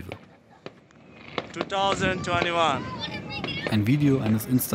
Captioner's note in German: englisch